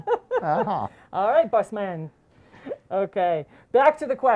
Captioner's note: laughs